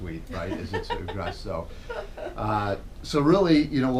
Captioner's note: laughter